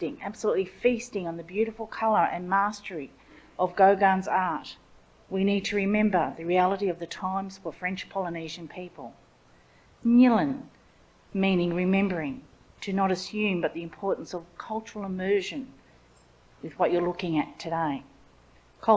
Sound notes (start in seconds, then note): 10.0 speaks in Ngunnawal language